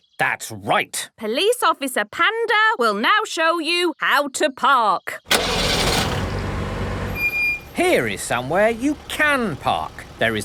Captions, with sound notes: - That's right! - Police Officer Panda will now show you how to park. (car engine starting) - (breaks squeaking) - Here is somewhere you can park.